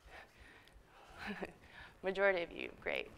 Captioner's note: chuckles